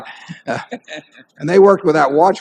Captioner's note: laughter